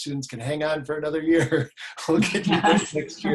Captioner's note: laughs; laugh